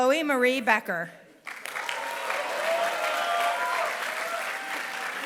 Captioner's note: applause